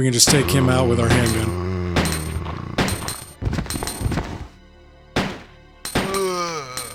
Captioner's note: gunshots